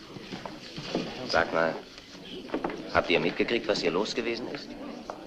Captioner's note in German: murmelt